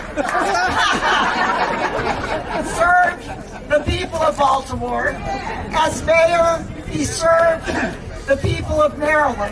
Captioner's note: laughter